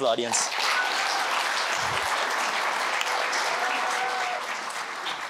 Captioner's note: applause